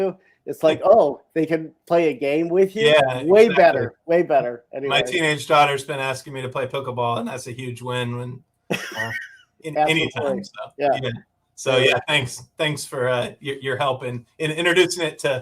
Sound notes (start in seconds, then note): 9.8 laughs